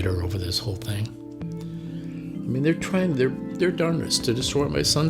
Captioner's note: voice breaking